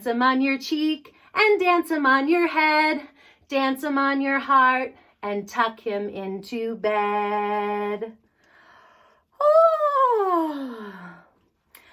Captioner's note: yawn